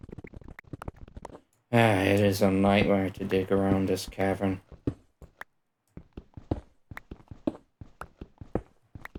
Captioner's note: sigh